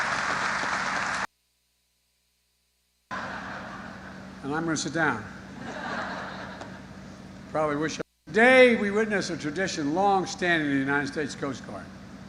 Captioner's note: applause